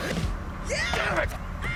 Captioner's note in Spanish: Gritos